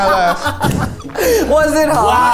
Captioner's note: exhales